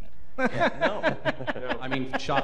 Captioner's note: laughter